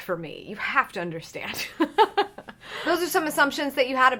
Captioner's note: laughs